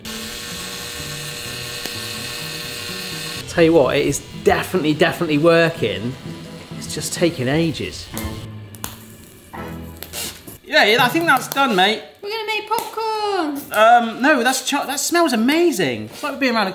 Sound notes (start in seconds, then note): 0.0 drill whines; 8.6 corn pops